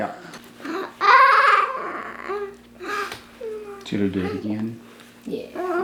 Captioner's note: mumbling